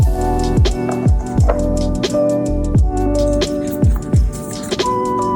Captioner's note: cardboard clattering